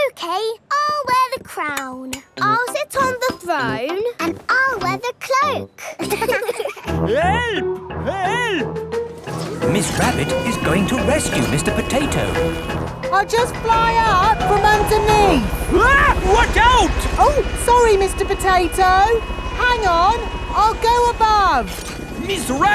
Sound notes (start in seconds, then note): 5.8 laughing; 16.1 screams